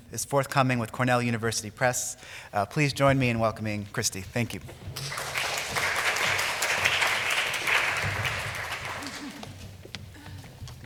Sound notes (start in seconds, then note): 4.9 applause